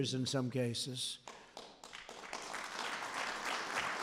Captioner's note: applause